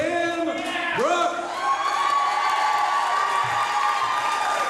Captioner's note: cheering, applause